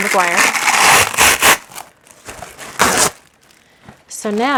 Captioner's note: plastic wrap rustling